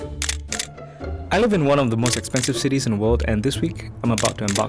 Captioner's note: voiceover